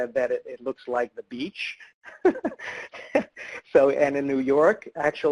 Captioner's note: laughs